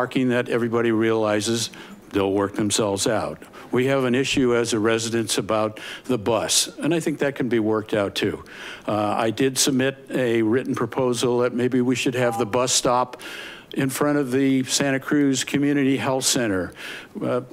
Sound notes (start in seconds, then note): none